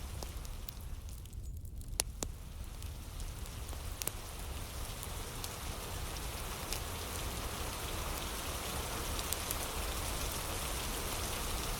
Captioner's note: fire crackling